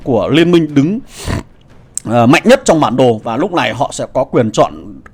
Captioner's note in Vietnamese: khịt mũi